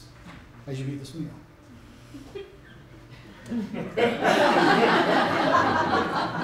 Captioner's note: laughter